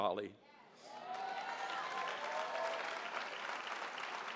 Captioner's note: audience cheers